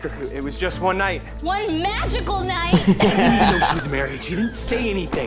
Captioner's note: everyone laughs